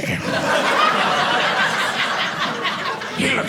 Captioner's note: audience laughing